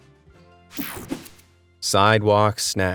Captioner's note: graphics whoosh